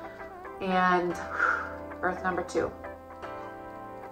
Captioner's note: sighs